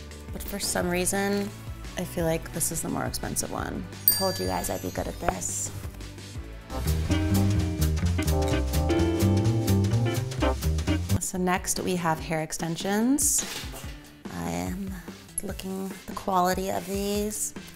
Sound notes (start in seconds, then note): 4.0 bell dings; 6.7 playful music